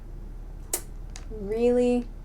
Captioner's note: tsk